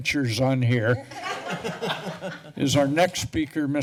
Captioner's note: laughter